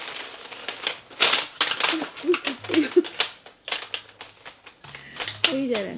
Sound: A cat-caphony of falling pencils

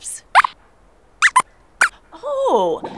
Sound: squeaks squeaks

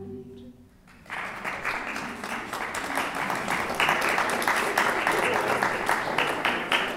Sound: clapping

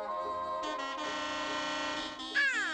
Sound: horn honking

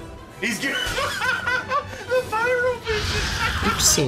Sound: laughter

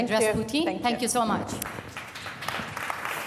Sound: applause

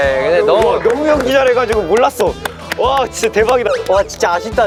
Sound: emotionless

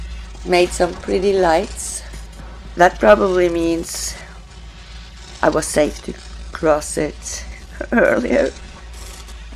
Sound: chuckles

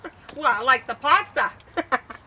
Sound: laughs

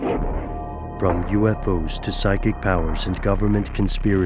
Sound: voiceover

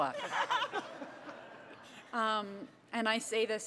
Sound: audience laughter

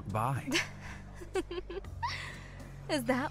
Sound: amused laugh

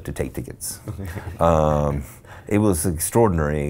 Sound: laughs

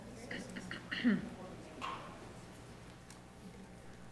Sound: throat clears

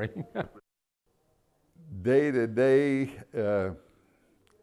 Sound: laughter

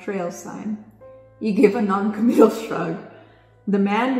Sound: laughs

